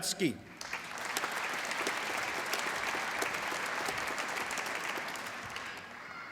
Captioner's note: applause